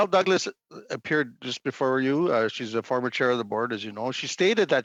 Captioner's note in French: voix de l'interprète